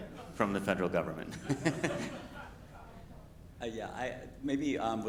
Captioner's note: everyone laughing